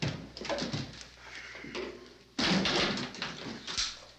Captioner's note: wood clattering